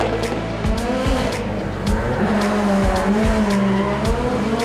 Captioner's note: engine revving